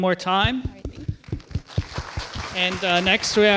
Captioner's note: applause